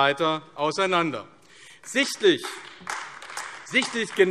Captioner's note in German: Beifall AfD